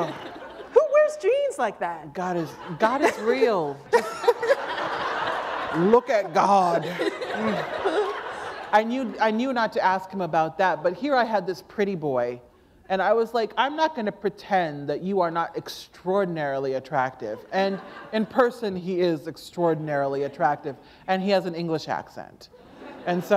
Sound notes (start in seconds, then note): 5.1 laughter; 7.7 laughter